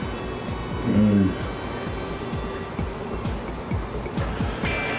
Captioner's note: he groans; intense music